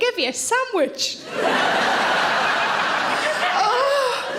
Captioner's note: audience laughing